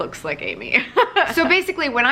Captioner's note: laughing